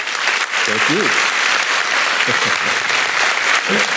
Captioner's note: audience applauding; laughing; audience applauding